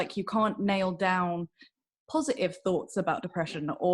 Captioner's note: none